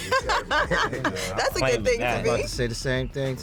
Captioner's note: laughs